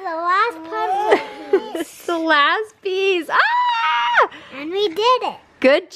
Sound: chuckles

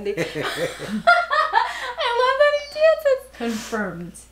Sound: laughs

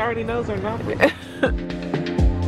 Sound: laughs; mellow music

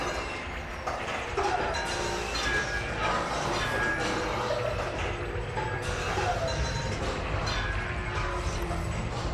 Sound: shooting gallery sounds

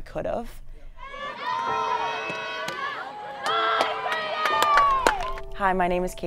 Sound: crowd Cheering

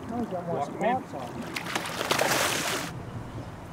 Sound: fish splashing

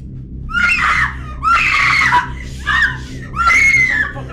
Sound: screaming

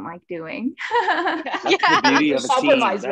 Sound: laughs

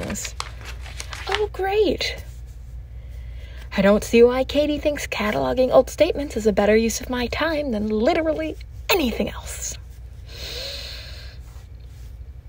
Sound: tape recorder clicks on

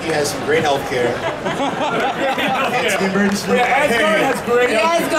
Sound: audience laughing

